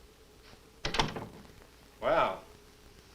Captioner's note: door closes